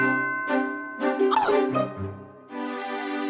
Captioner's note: gasps